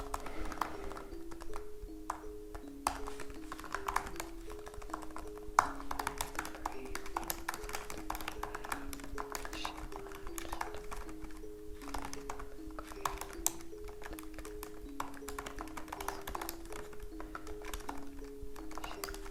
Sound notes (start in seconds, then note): 0.1 keyboard clacks; 9.7 Leona whispers; 9.7 keyboard clacks; 19.1 Leona whispers; 19.1 keyboard clacks